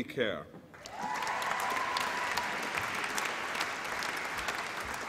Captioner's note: applause and cheering